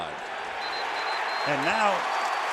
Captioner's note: cheering